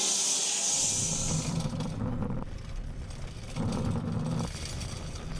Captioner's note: log saw rattling